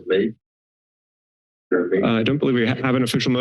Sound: silence

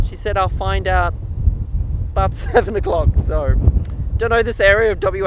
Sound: laughing

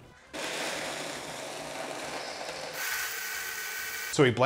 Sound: blender whirring

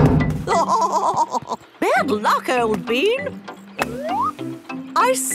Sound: laughing

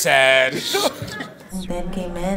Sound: laughs

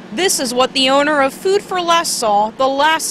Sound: sound of firefighters working

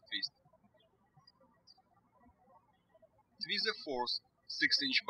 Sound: birds chirping

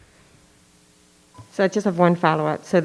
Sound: microphone beeping

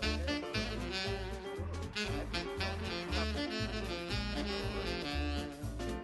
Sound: chatting

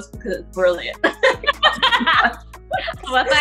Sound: laughter

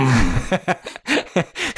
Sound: laughter

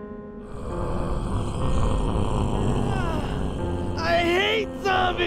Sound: zombie growls

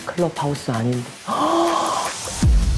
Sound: gasping

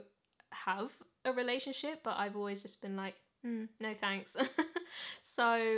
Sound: chuckles

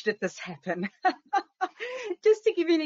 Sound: laughter

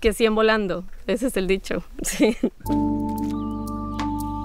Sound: speaking Spanish; speaking Spanish

